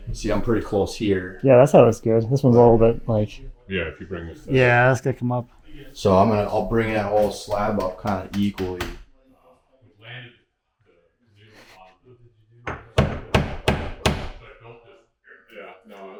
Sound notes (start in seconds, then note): 9.6 installers chattering; 12.6 hammer tapping